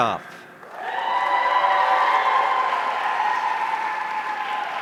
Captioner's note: audience cheering